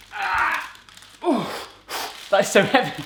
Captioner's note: grunting